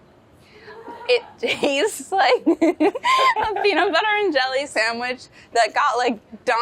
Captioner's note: laughs